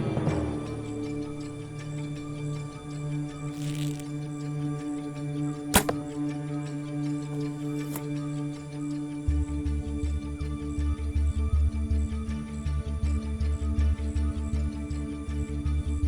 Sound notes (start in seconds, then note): 3.8 bow string draws; 7.6 arrow whistles; 10.1 tense music